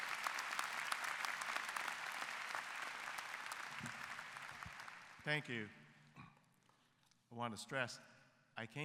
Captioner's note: applause